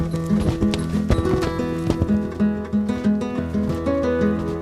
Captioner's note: playful acoustic guitar music; horse hooves clomping